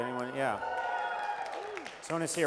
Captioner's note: applause